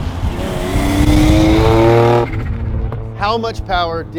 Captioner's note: car engine roars